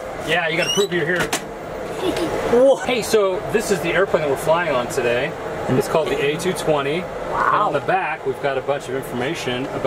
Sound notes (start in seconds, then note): 1.8 giggles